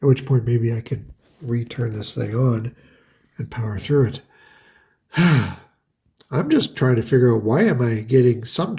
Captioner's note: sighs